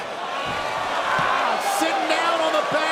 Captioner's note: crowd cheering